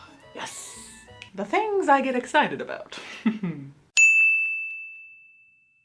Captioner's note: ding